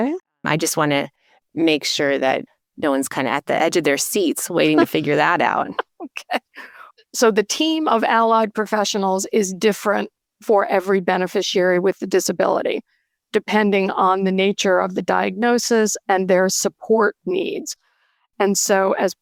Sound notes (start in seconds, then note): 5.6 laughter